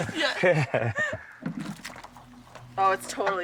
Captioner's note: both chuckle